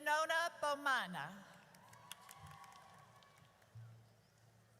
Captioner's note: audience cheers